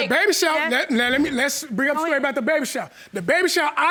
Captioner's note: stammering